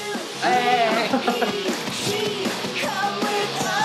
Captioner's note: cheering